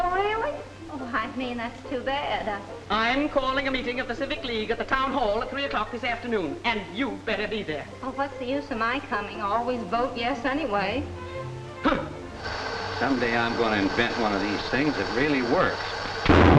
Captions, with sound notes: - Oh really? Oh, I mean, that's too bad. - I'm calling a meeting at the Civic League at the town hall at three o'clock this afternoon. And you better be there. - Oh, what's the use of my coming? Always vote yes anyway. (Minerva scoffs) - Someday I'm gonna invent one of these things that really works.